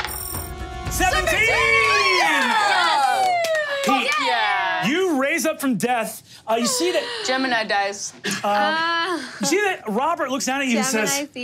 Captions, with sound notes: - 17! - 17! (players cheering and clapping) Yes, fuck yeah. - You raise up from death. You see that-- - Gemini Dice. - You see that Robert looks down at you and says--